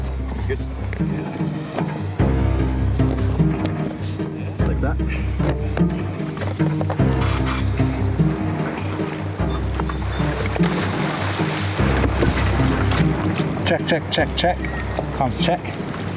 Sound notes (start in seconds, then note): 3.3 tense pulsating music continues; 10.8 water splashing